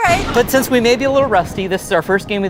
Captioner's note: lightning cracks